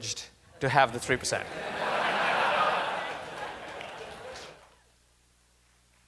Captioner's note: laughter